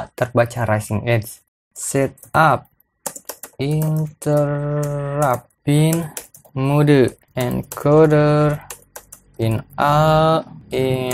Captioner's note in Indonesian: typing code